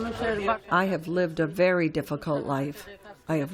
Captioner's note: through translator